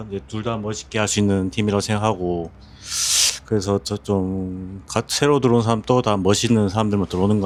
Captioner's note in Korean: 콧방귀